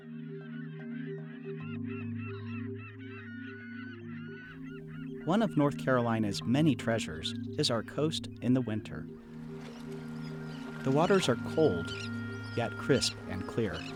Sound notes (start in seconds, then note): 0.2 slow relaxing music; 0.4 seagulls squawking; 9.0 water babbling